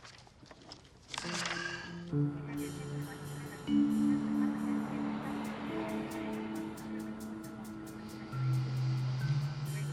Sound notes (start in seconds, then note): 1.4 sighs; 1.9 dramatic music